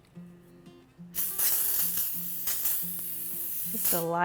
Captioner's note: spray hissing